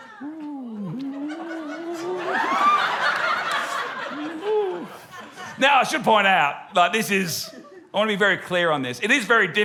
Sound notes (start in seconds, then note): 3.1 laughter